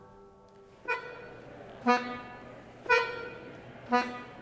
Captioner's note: beeping